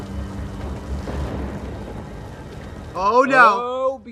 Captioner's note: Douglas on Phone; rain spatters on window